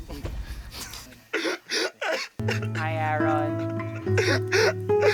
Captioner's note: crying